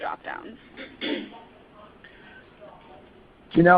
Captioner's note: silence